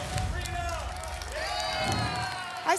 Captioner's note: applause and cheering; whoosh